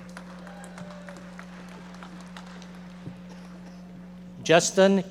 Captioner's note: audience members applauding